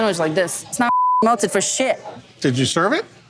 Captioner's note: beep